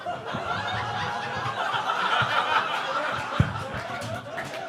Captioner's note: audience laughing